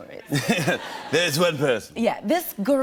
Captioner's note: laughter